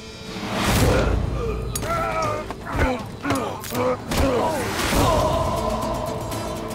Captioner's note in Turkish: Yumruk atma sesi; Dövüş sesleri; Müzik - Hareketli